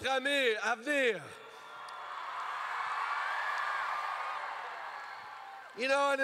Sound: crowd cheers

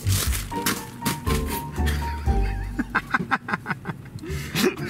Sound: people laughing

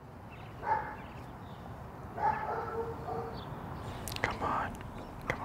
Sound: dog barking

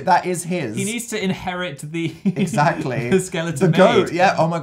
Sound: giggles

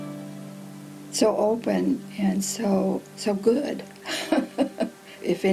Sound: laughs

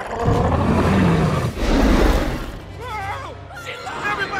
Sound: growling

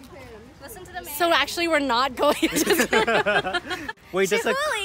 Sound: laughs

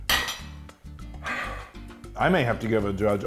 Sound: sighing

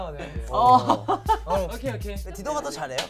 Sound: laughs

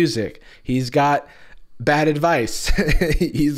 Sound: laughs

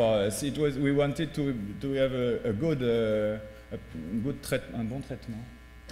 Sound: speaking french

